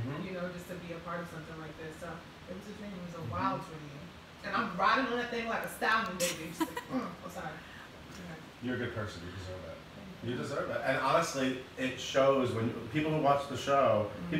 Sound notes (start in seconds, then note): 6.2 laughing